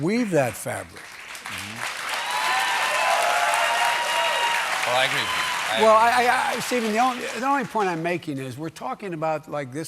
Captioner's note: applause